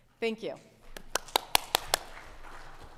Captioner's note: audience clapping